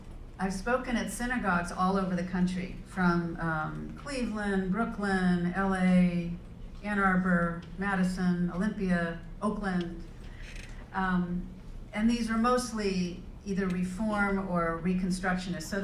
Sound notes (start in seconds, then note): none